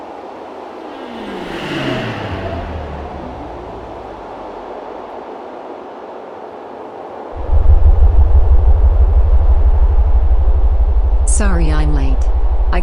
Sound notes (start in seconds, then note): 0.1 aircraft whirring; 7.4 aircraft rumbling